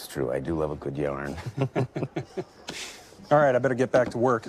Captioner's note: all chuckle